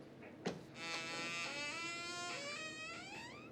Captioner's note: door creaks